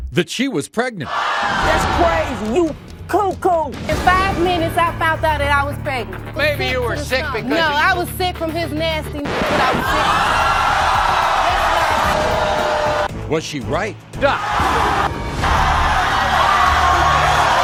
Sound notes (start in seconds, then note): 9.1 record scratches; 9.5 audience cheering; 15.3 audience yelling